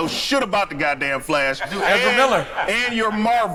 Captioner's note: laughs